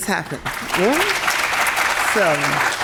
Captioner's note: audience clapping